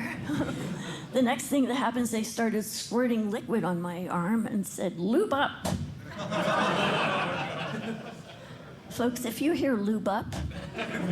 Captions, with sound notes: The next thing that happens, they started squirting liquid on my arm and said, "Lube up." [LAUGHTER] Folks, if you hear, "Lube up,"